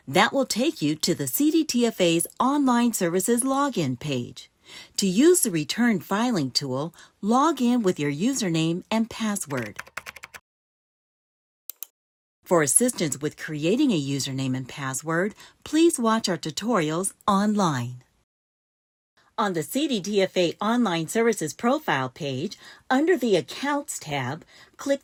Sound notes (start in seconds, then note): 9.4 typing SFX